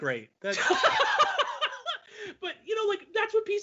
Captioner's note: laughing loudly